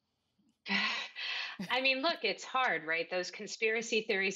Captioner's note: laughs